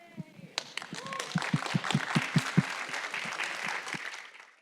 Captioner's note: audience clapping